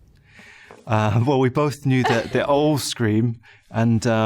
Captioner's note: chuckling